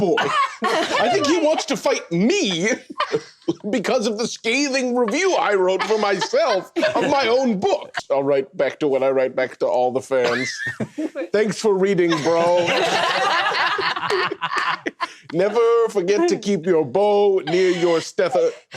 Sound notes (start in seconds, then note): 2.1 chuckles